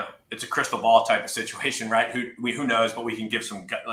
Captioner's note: laughs